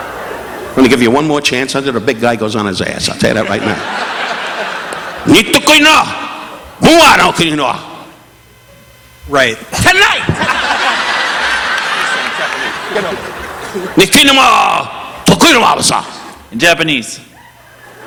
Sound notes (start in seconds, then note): 3.2 audience laughing; 3.4 participant laughing; 5.1 Don speaking in Japanese; 10.2 audience laughing; 13.8 Don speaking in Japanese; 17.3 audience laughing; 17.8 participant laughing